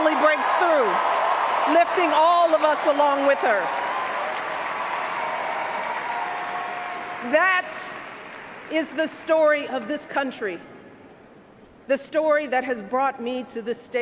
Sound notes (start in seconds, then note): 2.6 cheers, applause